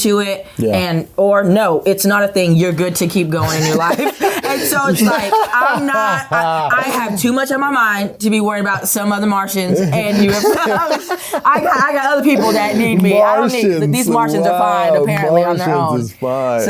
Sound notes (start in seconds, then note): 11.1 laughs